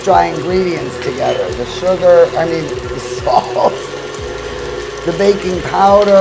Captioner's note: laughing